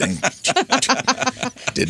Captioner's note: laughs